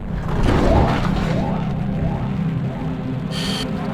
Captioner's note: glitch and crashing noises